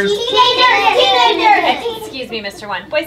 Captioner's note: students shouting out